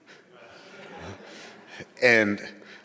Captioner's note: audience giggling